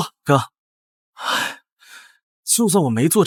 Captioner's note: sigh